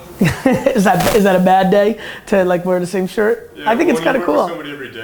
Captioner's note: laughs